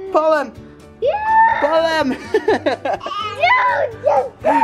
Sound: laughing

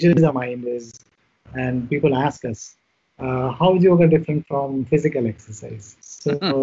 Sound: both laugh

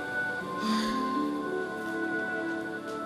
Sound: yawns

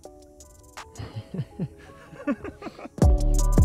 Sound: laughing

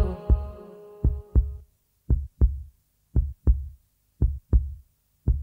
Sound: song ends, heartbeat sound

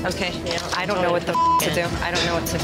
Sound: beep

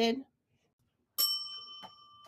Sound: bell dings

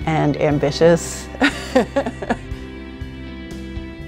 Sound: laughter

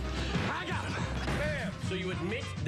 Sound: thuds

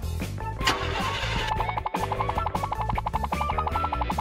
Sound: car ignition starts

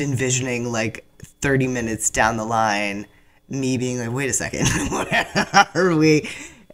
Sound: laughs

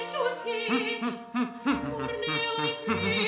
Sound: humming melodically

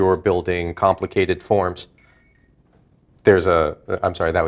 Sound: sound of cell phone ringing

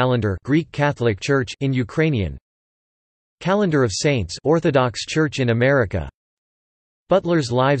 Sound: in Ukrainian

